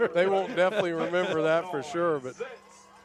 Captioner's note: laughter